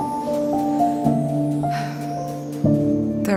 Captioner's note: mouse panting